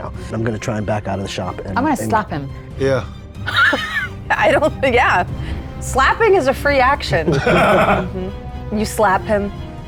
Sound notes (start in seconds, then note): 3.4 laughs; 7.2 laughing